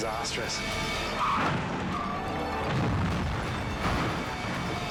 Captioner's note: car crashing